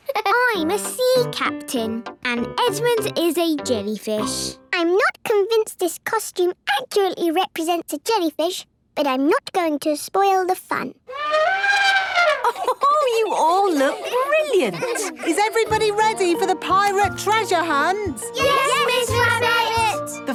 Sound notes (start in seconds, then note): 11.0 trumpeting; 11.1 Mummy Pig laughing